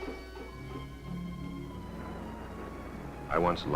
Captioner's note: dramatic music; waves splashing